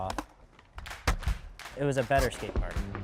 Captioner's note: clapping beat